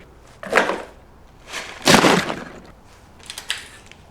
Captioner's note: paper Noises; sounds of a tape dispenser on concrete